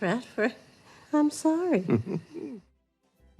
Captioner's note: chuckles